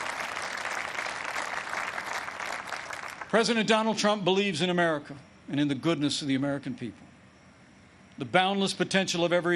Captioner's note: applause